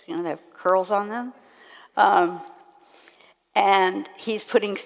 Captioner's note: none